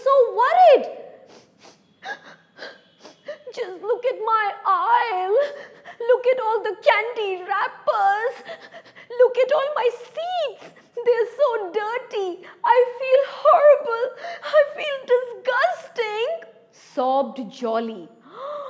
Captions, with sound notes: Now, the children were worried. [sobbing] “Just look at all my aisle. Look at all the candy wrappers. Look at all my seats, they are so dirty. I feel horrible. I feel disgusting.”, sobbed Jolly.